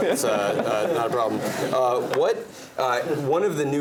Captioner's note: laugh